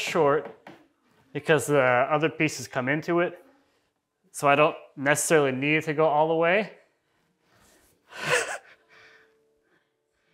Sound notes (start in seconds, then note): 8.2 laughs